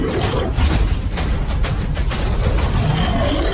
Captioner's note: monster Roar; gun Shot / Monster Roar